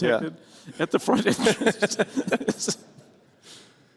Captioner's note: laughter